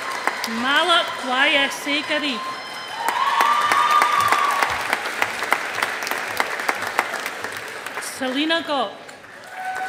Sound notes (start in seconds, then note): 3.1 audience applauding